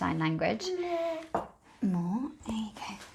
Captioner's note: baby murmurs